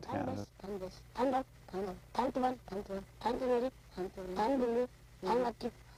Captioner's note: foreign language